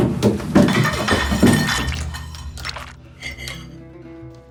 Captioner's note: plate clinking